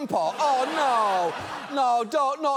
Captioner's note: audience laughs